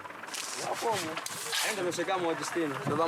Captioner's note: Portuguese spoken audio